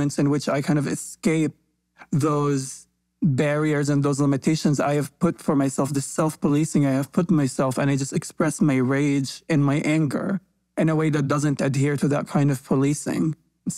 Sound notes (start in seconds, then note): none